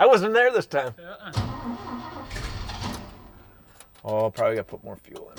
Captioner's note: engine sputters and stops